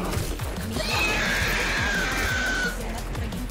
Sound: frustration sounds

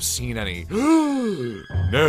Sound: gasp

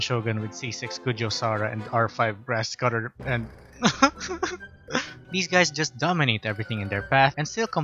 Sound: cries

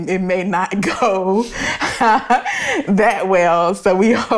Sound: laughs

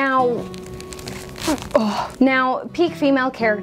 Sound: grunts

